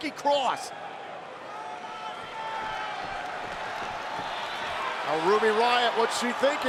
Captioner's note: crowd shouts and cheers